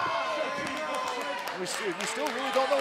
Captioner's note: crowd cheering